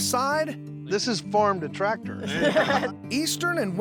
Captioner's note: everyone laughs